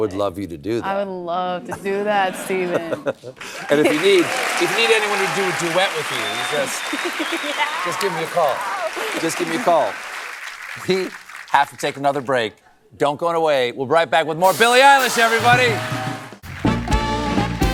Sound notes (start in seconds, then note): 3.6 applause